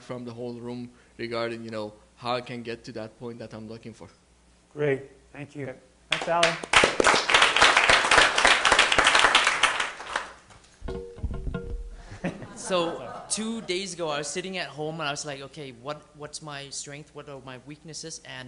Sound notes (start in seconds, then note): 8.3 applauding